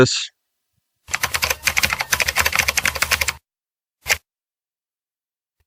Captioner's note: loud clicking sounds